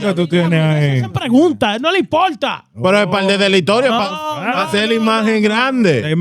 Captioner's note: speaking In Foreign Language